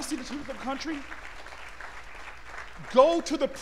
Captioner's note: applause